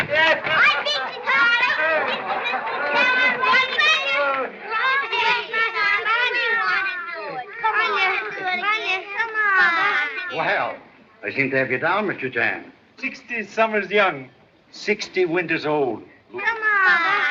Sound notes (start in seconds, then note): 3.2 children playing